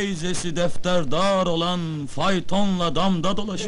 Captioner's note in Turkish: gülüşürler